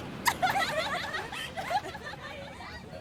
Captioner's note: women laughing